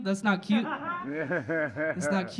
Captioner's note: audience laughing